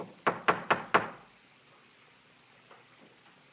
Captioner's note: knock on door